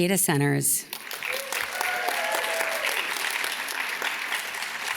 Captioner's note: audience cheers and claps